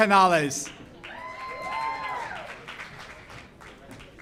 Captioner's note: audience cheers